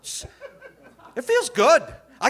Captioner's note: audience laughing